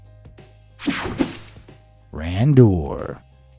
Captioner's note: air whooshing